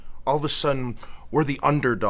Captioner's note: none